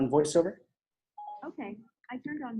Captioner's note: phone beeping